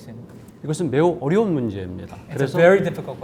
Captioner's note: speaking in Korean